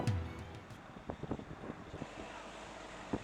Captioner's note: wind noise